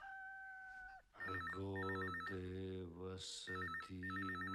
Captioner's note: phone ringing